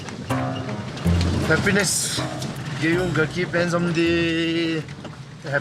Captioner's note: dzongkha spoken audio